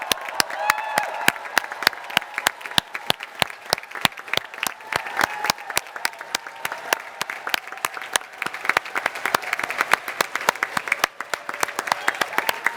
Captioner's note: cheers and applause